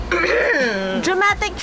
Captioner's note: clears throat